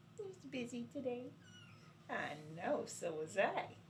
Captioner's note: kitten mews